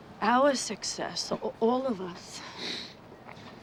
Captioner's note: sniffs